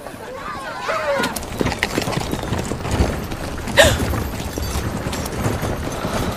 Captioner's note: chattering; chattering Continues